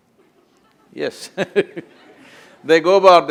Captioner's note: few laugh; laughs